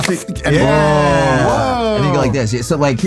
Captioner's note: everyone exults